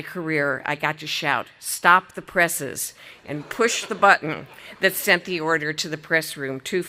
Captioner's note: audience laughing